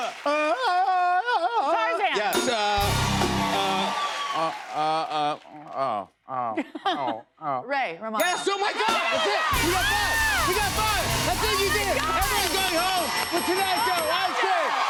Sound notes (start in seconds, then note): 0.0 cheers and applause; 2.7 cheers and applause